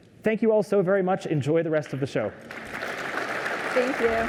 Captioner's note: applause